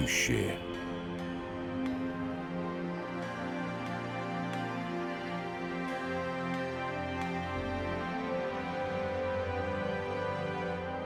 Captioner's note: applause